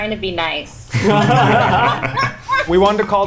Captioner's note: everybody laughing